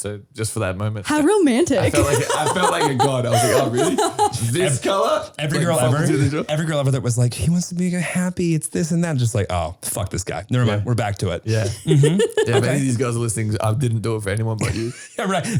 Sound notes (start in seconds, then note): 1.7 laughing